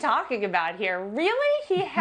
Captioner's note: laughter